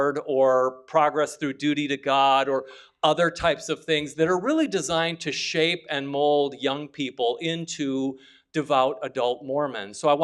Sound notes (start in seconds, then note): none